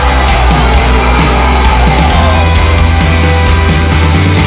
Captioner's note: crowd cheering; students cheering